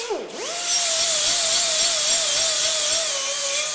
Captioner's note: grinding sound